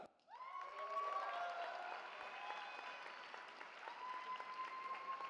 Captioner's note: cheering